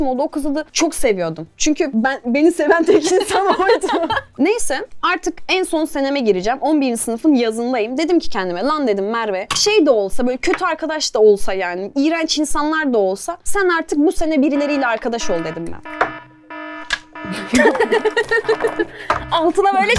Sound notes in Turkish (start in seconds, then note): 14.4 Alarm sesi; 17.3 Gülüşmeler